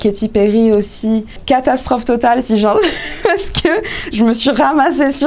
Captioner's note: laughs